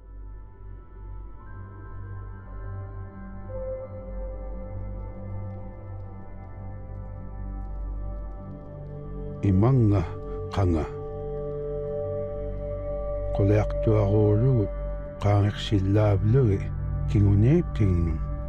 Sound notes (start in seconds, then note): 0.1 melancholic music; 9.8 speaking in foreign language